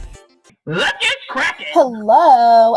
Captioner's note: voiceover